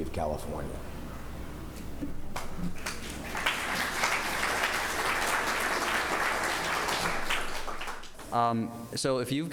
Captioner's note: applause